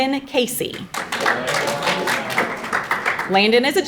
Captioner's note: audience applauding